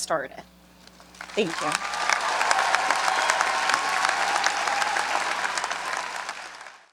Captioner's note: audience applauding